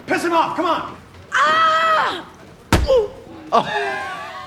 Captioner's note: yelling; laughing